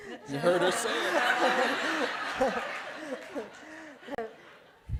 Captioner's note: laughter